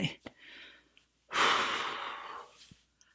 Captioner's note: deep exhale